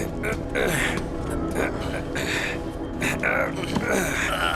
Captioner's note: grunting